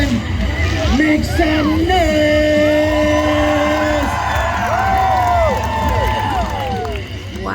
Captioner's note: crowd erupts with cheers